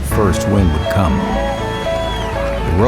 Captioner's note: crowd cheering